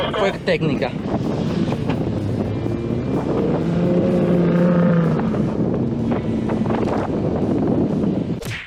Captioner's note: wind blowing; engine revving